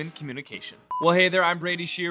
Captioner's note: device beeps